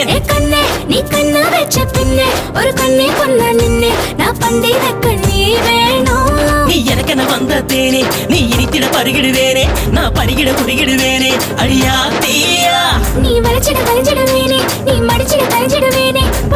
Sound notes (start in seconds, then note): none